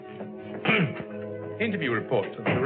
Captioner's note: clears throat